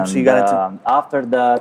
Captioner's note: murmurs